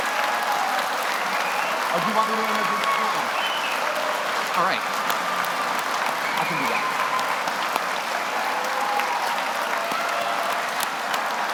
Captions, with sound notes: (speaking off mic) All right. I can do that. (audience applauding)